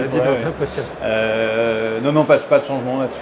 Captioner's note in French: Rires